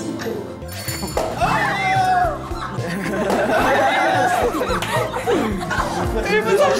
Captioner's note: popping champagne for the first time